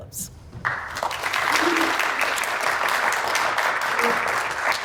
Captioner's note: audience applauds